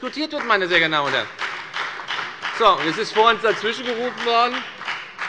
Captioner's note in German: Beifall bei der FDP und bei Abgeordneten der SPD